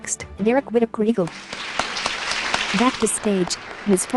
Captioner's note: applause